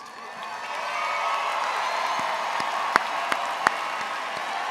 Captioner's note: all applauds